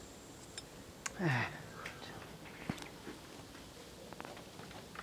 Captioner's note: sighing